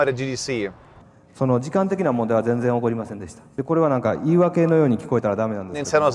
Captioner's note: Shigeru Miyamoto speaking in Japanese